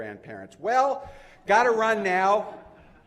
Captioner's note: laughter